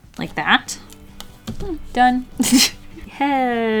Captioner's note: laughs